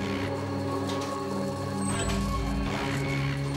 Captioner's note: locusts buzzing